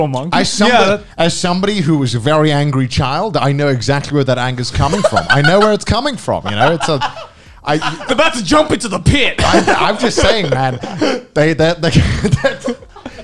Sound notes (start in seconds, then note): 6.4 laughing; 12.3 laughs